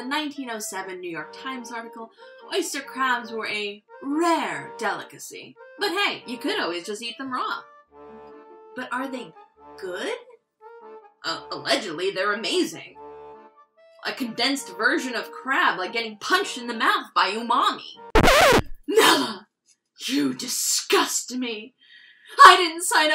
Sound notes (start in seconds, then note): 18.1 record scratch